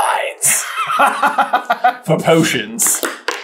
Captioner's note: laughter